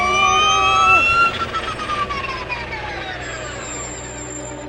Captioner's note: engine revving